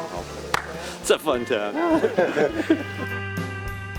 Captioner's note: sigh of laughter